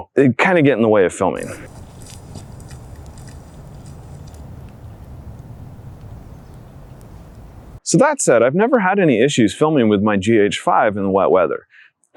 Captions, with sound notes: They kind of get in the way of filming. [wet footsteps] [gentle breeze] So, that said, I've never had any issues filming with my GH5 in the wet weather,